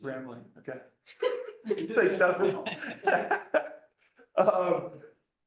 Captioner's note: laughter